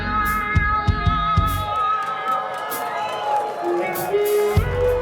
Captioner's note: audience cheers